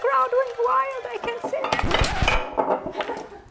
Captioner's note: bottle clanking; vinyl disc scratching; crew member laughing